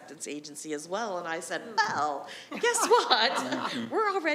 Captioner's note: others laughing